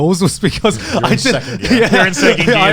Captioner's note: laughing